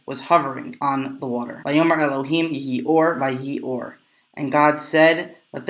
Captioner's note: Hebrew; Hebrew